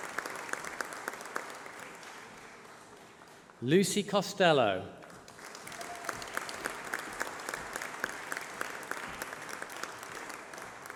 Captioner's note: applause